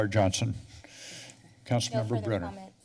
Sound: pause

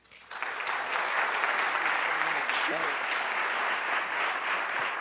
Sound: audience applauds

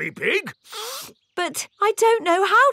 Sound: sniffs

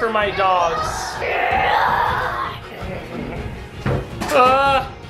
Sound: roars

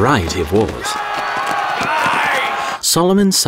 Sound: army yelling

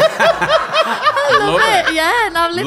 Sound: laughs

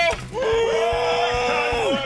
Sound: groans loudly

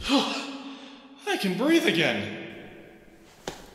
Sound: gasp

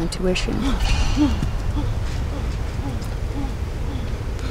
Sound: James panting

